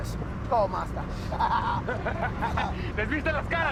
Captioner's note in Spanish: Risas